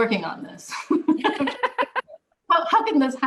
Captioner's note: laughter